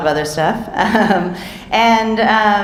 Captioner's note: speaker chuckling